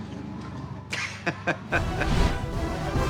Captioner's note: laughs